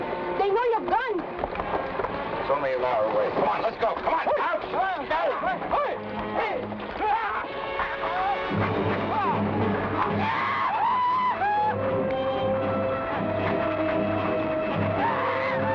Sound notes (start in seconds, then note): 4.3 men shout; 8.8 men shout; 12.8 thrilling music